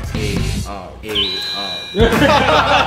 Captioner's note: imitate robot's voice; laughs